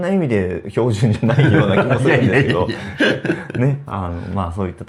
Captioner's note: laughs